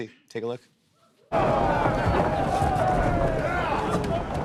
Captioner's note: men shouting